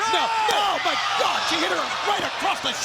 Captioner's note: crowd cheering